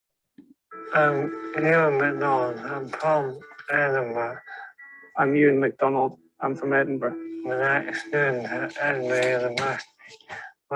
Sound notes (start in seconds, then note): 1.7 dysarthric speech; 7.7 synthetic voice; 9.7 dysarthric speech